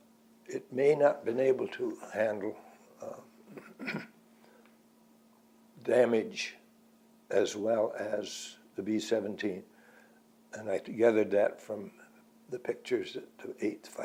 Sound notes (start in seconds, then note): 3.4 clears throat